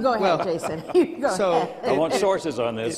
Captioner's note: chuckles